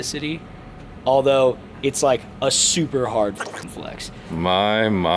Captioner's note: beep